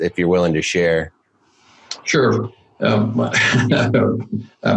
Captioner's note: laughs